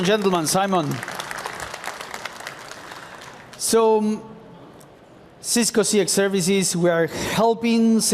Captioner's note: applause